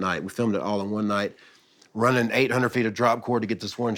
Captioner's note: none